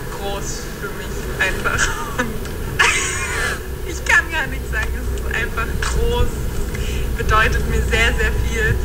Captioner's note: laughs